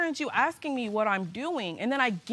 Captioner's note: none